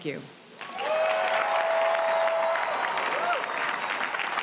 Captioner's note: audience applauding